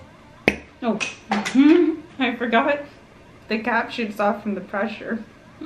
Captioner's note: pop; giggles